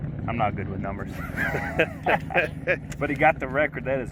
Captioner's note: both laugh